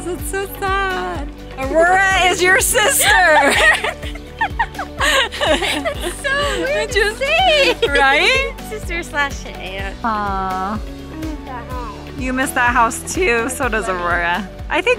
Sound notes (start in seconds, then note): 2.7 laughs